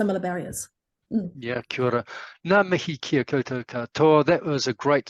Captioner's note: speaking in foreign language